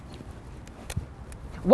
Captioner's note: camera snaps